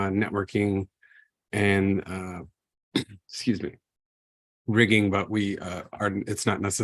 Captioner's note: coughs